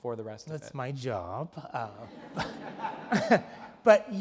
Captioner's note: laugh